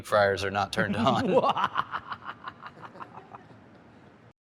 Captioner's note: evil laughter